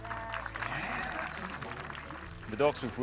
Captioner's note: audience applauds